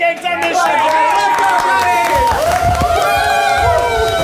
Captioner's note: group cheers